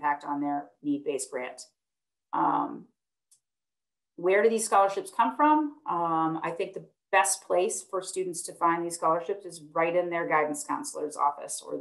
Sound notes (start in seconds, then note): 3.3 clicking